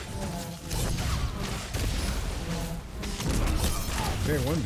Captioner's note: gunfire